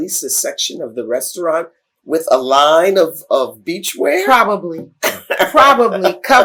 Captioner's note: laughter